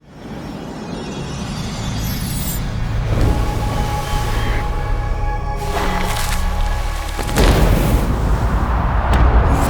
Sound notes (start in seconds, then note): 2.0 sound effects; 3.3 nature noises; 7.2 lighting strikes; 9.5 nature sounds